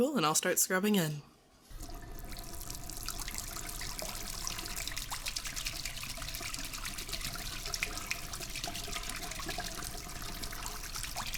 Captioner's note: hand washing and glove sounds